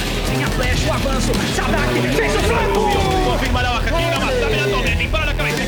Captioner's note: speaking foreign language